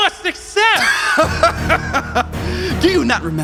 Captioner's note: laughing maniacally